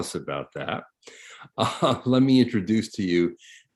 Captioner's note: chuckles